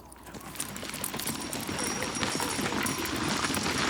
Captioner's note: hooves clop